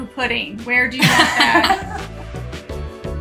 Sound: laughing loudly; soft music

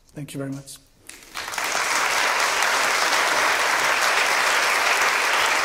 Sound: applause

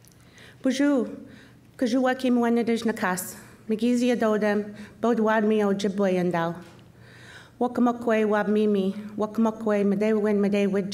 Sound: speaking Chippewa

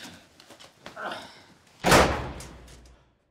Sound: door slams

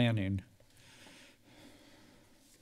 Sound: silence

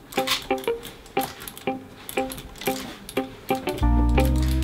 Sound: computer mouse clicking

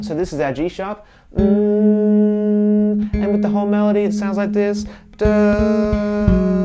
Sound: hums note; plays melody while humming

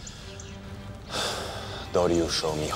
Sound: Xerxes sighs; Xerxes speaking in foreign language

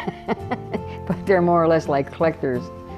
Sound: laughter

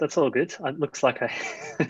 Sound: both laugh

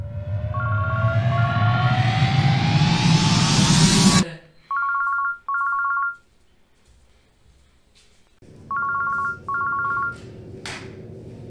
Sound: phone rings again

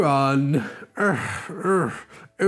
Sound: Growler Groans

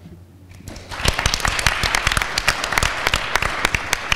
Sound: audience applauds

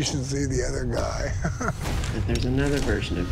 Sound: laughs

